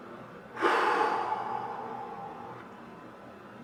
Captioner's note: exhales